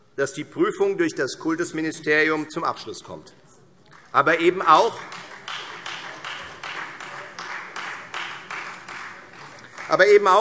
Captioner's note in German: Beifall Freie Demokraten